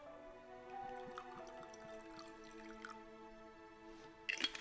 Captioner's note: drink trickling